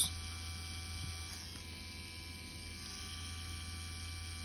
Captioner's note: machine whirring